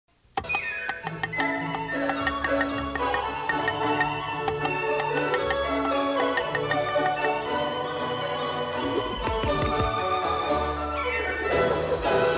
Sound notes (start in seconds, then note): 0.0 chopping; 0.0 joyful music; 8.6 whooshing